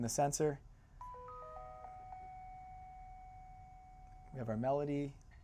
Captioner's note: chime playing